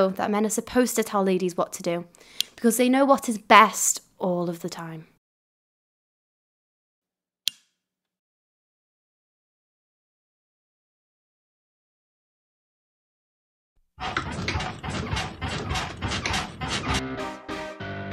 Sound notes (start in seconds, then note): 14.0 bed banging against wall